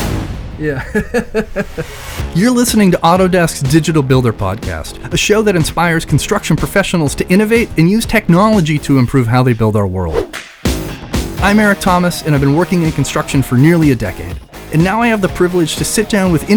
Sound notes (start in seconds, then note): 0.6 laughs